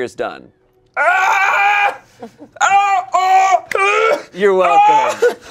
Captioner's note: yells